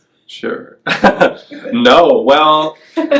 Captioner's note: laughs